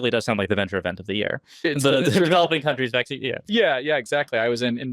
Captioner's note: laughs